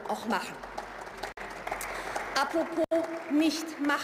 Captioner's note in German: Beifall